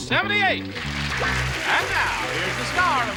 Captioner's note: applause